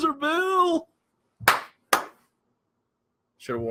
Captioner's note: claps